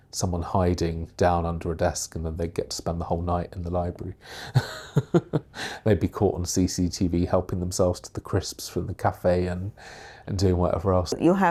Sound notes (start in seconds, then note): 4.4 laughs